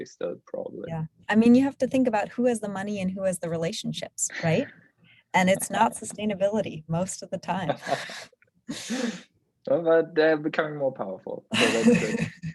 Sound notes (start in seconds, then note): 7.8 chuckles; 11.6 laughs